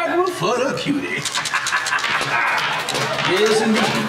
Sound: laughing

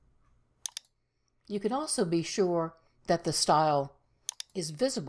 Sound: mouse clicks

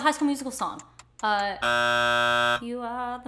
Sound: buzzing

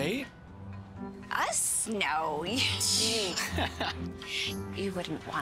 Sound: laughing

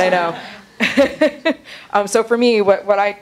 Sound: laughing

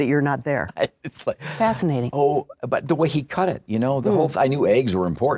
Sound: laughs

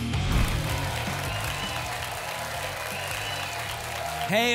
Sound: applause and cheering

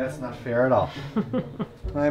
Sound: giggles

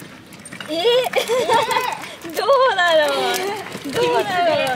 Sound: laughs

